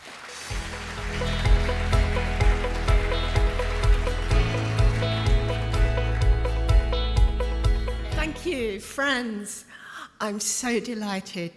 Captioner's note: applause